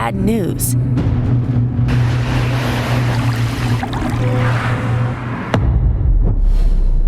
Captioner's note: raging thunderstorms; water splashing